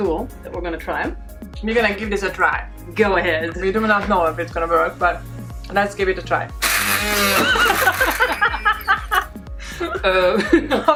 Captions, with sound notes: that we're gonna try. - We're gonna give this a try. - Go ahead. - We do not know if it's gonna work, but let's give it a try. (machine whirls) (laughing)